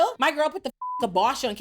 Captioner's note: beep